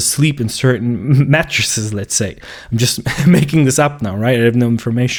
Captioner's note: chuckles